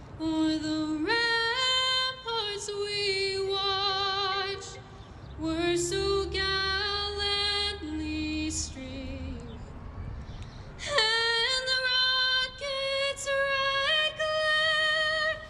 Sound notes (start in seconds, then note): none